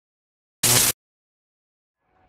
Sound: electric sound

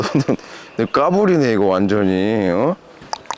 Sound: laughing

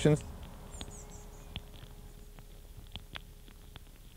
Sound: soil crackling

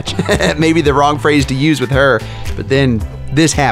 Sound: laughs

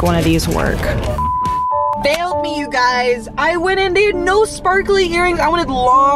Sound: beep

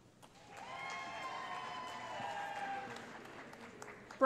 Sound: cheering

